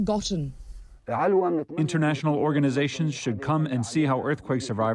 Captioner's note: through translator